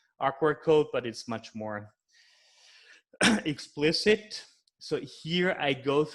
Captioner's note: clears throat